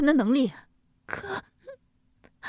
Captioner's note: sobs